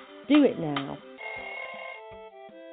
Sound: alarm bell

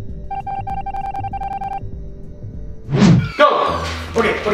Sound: beeping as words appear

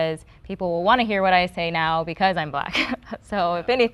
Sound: chuckles

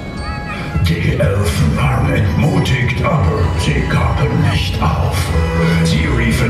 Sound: german

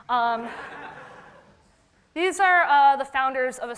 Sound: audience laughter

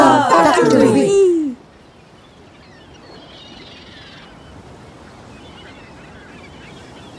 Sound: rustling waters; seagulls squawking

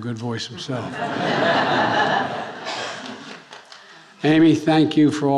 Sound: attendees laughing

